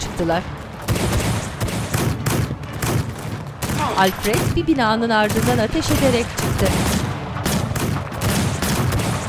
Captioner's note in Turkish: Müzik - Gerilim; Silah sesleri